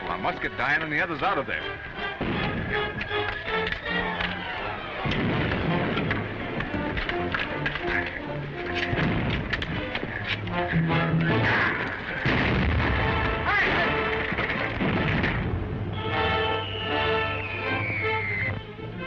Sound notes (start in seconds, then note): 4.0 explosions booming; 5.1 swords clattering; 13.5 assailant shouts; 15.9 bomb whistling